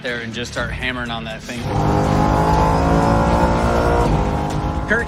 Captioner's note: engine revving